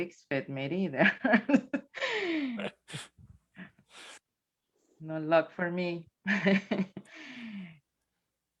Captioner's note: chuckles